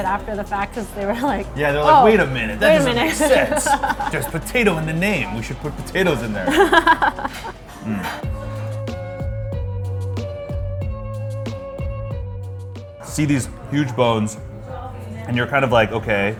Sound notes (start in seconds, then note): 6.1 laughs; 8.4 steady music